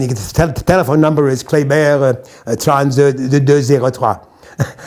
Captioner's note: French language